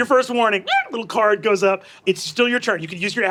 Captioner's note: squawks